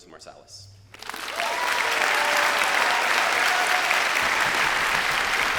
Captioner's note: crowd applauding